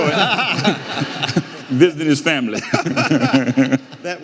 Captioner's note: audience laughing; laughs